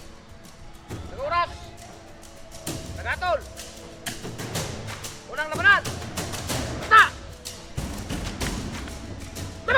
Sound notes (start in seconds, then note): 1.2 referee speaks in Tagalog; 7.5 thrilling music